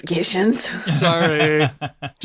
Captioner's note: laughs